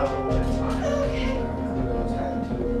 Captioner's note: whimpering; tense music